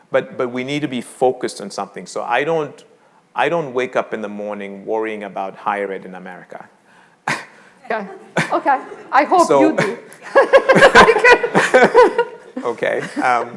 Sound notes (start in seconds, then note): 7.4 both laughing